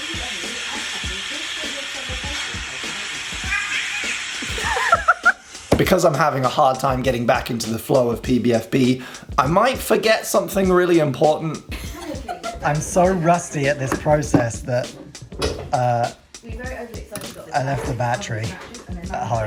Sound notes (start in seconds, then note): 0.3 droning; 3.4 cat meowing; 4.3 laughing; 11.6 laughing